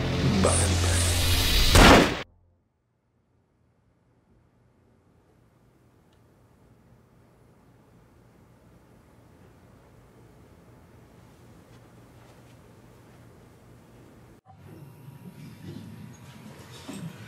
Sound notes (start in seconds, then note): 1.7 gun firing